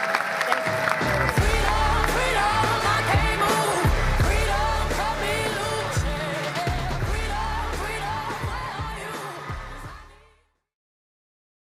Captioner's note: applause